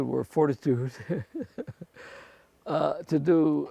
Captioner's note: chuckles